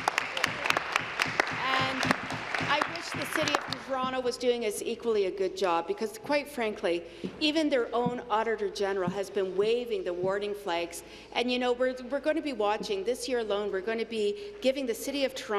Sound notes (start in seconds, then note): 2.7 applause